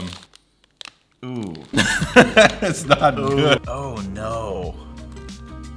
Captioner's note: laughs